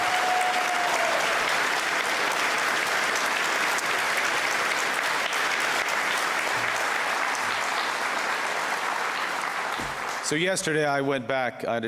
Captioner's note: cheers and Applause